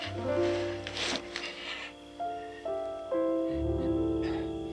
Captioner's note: Lena crying